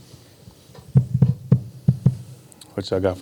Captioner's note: microphone thudding